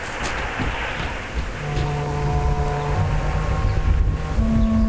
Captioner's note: footsteps thudding; dramatic music